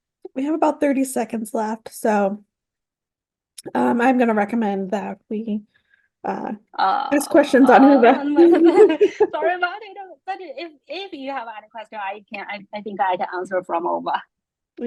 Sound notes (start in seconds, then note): 7.4 laugh